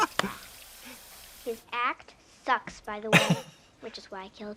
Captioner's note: Katya guffaws; Katya chuckles